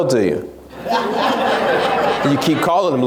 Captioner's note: laughs